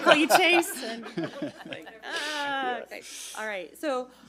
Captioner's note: everyone laughs